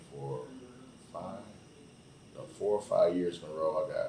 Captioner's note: none